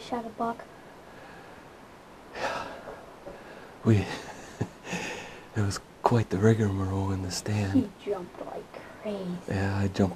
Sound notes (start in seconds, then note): 2.3 sighs; 3.9 chuckles